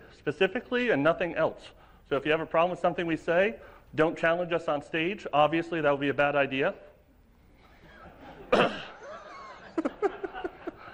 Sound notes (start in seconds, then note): 7.8 laughter